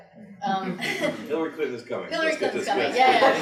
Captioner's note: all laughing